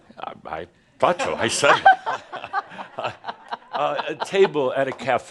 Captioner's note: laughter